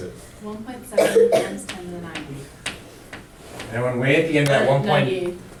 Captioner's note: voiceover; voiceover